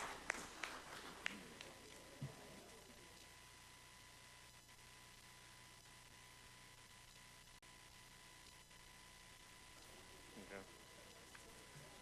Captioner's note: applause